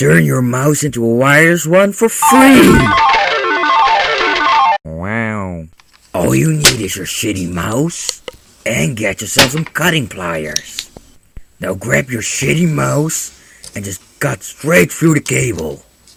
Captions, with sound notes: Turn your mouse into a wireless one for FREE [jackpot noices] wow All you'll need is your shitty mouse And get yourself some cutting pliers Now grab your shitty mouse, and just cut straight thru the cable.